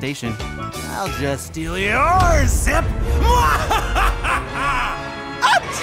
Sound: laughs manaically

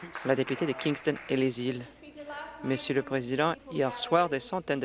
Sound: applause

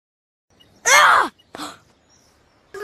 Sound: gasp

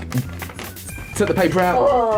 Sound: rummaging

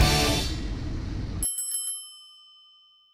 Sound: bell rings

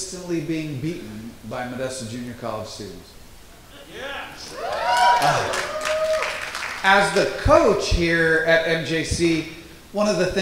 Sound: crowd Cheers

